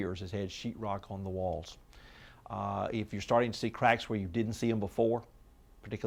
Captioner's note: none